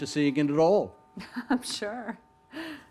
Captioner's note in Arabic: يضحك